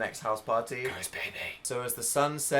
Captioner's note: whispers